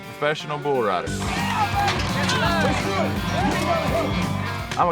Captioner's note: crowd cheering